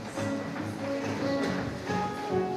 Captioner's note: none